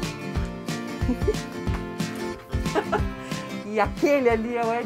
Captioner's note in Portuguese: risos